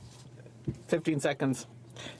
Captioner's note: speaking French